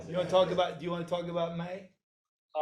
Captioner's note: none